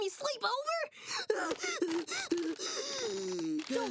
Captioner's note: hyperventilating